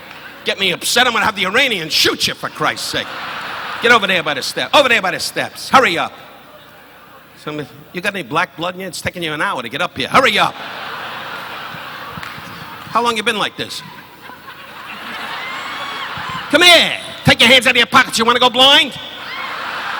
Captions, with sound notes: Get me upset, I'm gonna have the Iranian shoot you for Christ's sake. Get over there by the step, over there by the steps, hurry up. You've got any Black blood in you? It's taking you an hour to get up here. Hurry up! (audience laughing) How long you've been like this? (audience laughing) Come here! Take your hands out of your pockets, you wanna go blind?